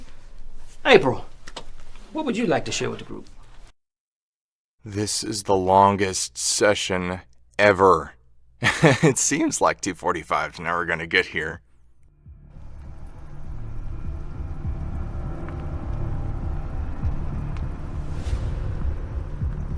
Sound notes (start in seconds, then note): 8.6 laughs; 12.0 tense music